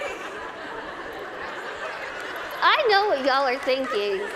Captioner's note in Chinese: 大笑